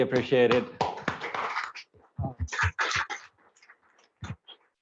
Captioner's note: applause